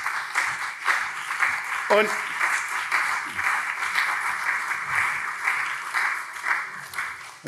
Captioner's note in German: Beifall CDU und SPD